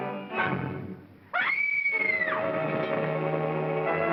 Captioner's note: Ann screams; suspenseful music